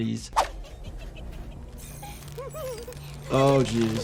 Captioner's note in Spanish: Uzi se ríe